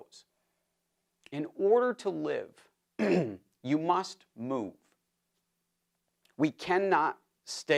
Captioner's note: cough